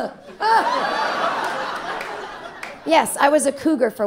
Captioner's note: audience laughing